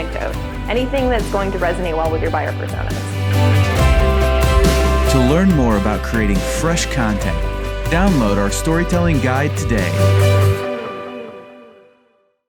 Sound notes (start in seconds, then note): 3.3 motivational music; 5.3 voiceover